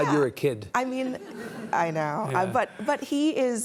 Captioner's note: audience laughs